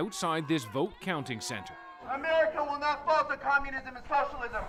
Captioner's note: crowd noise